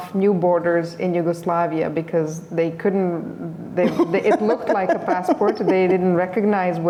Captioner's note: laughter